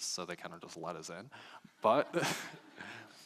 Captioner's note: laughing